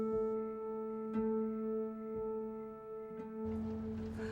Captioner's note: crickets chirping